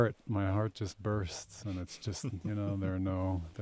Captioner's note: chuckling